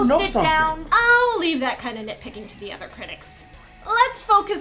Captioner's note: voiceover